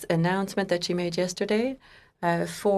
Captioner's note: speaking French